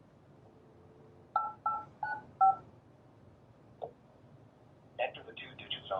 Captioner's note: buttons beeping